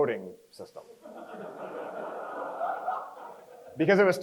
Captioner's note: crowd chuckles